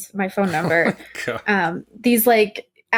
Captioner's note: laughter